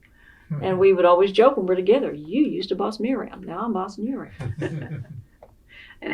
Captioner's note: laughter